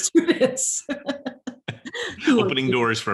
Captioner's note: both laugh